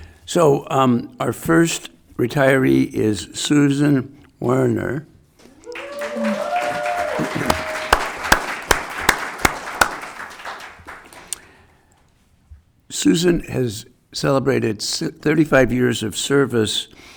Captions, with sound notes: So our first retiree is Susan Werner. (audience applauding) Susan has celebrated 35 years of service